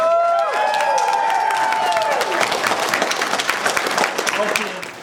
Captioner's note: whooping, cheering and clapping